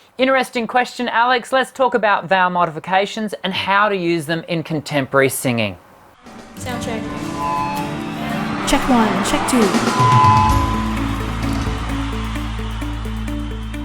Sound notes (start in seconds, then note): 7.8 speaker reverberating; 10.2 audience cheering